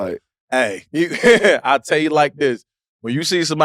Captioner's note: chuckles